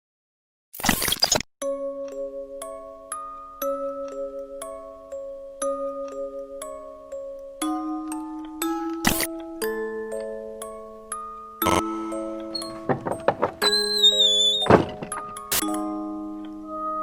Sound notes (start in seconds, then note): 2.1 music box playing; 12.5 creaky box opening